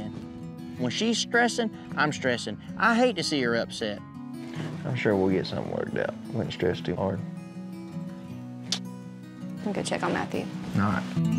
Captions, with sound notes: WHEN SHE'S STRESSING, I'M STRESSING. I HATE TO SEE HER UPSET. I'M SURE WE'LL GET SOMETHING WORKED OUT. DON'T STRESS TOO HARD. [SMOOCH] I'M GONNA GO CHECK ON MATTHEW. ALL RIGHT.